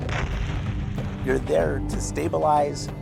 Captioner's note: explosion